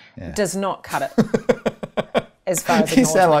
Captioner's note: laughing